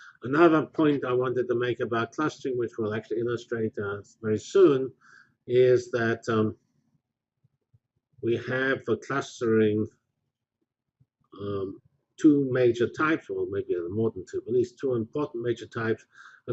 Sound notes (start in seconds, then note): 11.4 pause